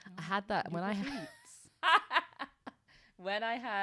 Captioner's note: laughs